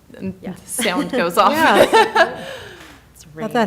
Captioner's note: laughing